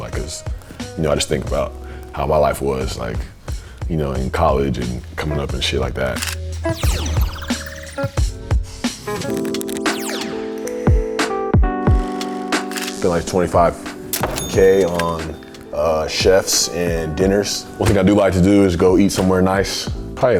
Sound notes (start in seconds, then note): 6.2 camera shutters; 7.0 upbeat music